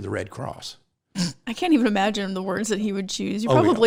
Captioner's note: laughs